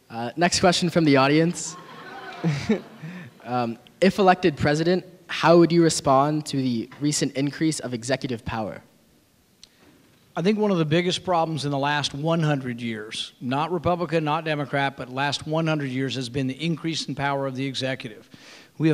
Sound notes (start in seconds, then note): 1.4 audience laughing